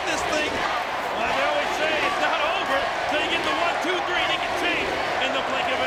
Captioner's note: audience chanting loudly